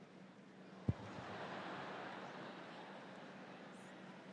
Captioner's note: audience laughs